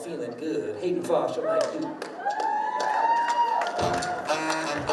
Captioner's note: crowd woos; funk music